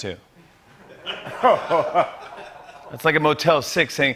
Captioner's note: laughter